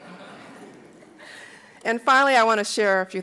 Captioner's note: laughing